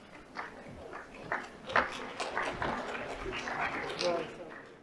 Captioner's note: audience applauds